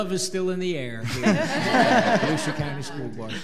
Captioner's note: audience laughing